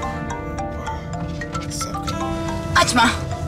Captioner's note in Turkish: Telefon zili sesi